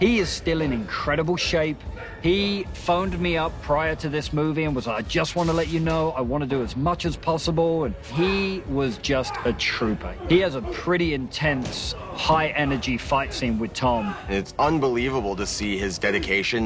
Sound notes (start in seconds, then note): 9.7 grunting